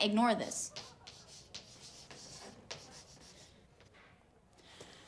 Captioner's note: chalk clicking